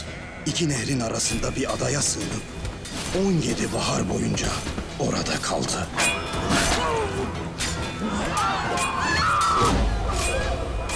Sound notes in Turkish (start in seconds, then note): 5.9 Çığlık sesi; 5.9 Kılıç Sesleri